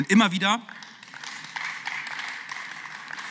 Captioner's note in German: Beifall